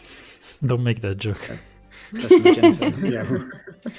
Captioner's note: laughs